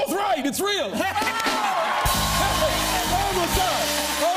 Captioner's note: cheers and applause